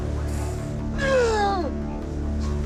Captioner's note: grunting